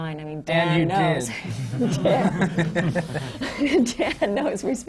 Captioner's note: laughter